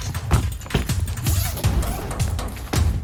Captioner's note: hectic percussive music; zipper; hectic percussive music